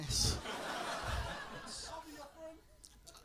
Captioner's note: laughter